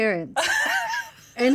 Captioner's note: laughing